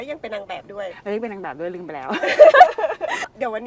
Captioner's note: laugh